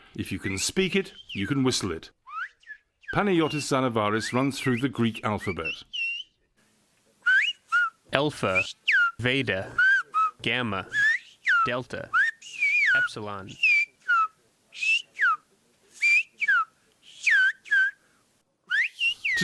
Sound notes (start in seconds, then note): 8.2 through translator